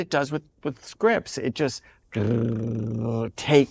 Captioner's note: trills